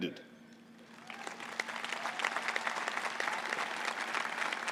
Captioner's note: applause